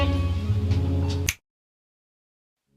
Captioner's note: fingers snap